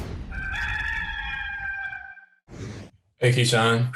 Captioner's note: bird crowing